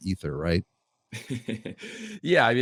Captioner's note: chuckling